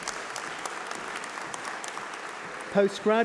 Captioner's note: applause